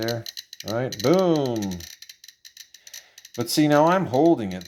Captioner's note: geiger clicks quickly